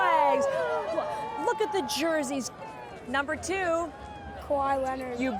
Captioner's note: cheers